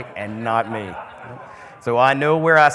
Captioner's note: crowd laughing